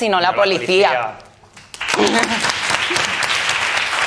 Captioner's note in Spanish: Aplausos